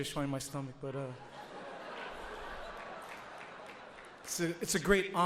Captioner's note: audience laughs